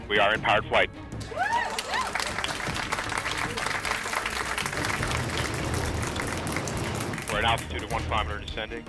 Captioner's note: applause